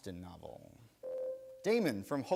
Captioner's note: buzzer rings